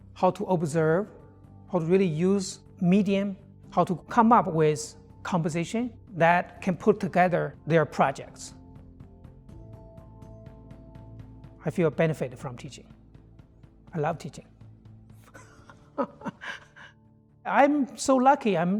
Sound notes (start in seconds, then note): 15.3 laughs